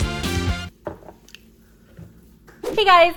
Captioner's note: licking lips